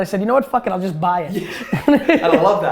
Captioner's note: laughs